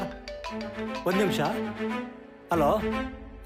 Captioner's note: mobile ringing